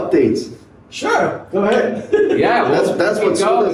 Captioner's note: laughs